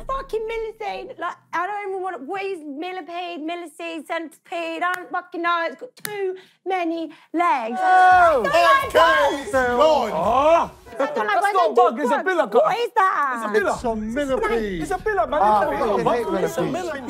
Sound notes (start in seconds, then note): 9.6 yelling